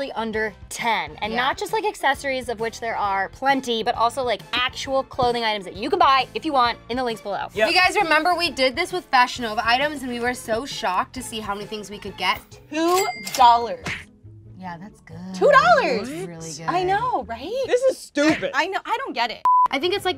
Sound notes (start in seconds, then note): 12.9 cash register rings; 19.4 beep